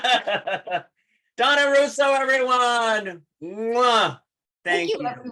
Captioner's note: laughter